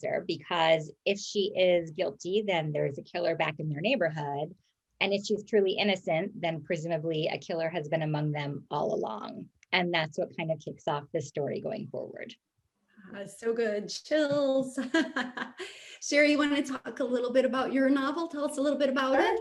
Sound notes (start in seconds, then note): 14.7 laughs